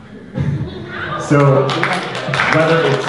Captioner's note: audience laughter